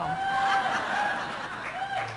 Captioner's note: cheers